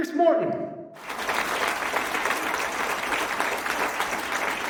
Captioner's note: audience clapping